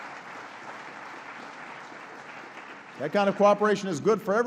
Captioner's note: applause